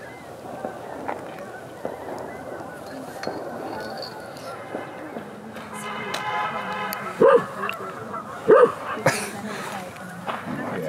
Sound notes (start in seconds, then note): 5.1 celebratory honks, fireworks; 7.0 bark!